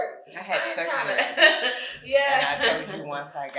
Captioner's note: chuckles; speaking faintly